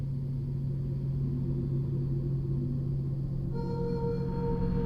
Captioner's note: wind howling